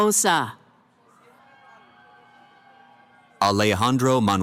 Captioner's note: cheering